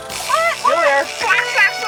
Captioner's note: laughing